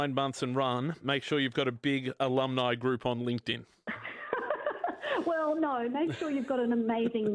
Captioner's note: laugh